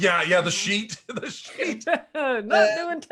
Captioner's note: laughs